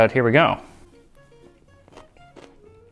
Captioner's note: chomp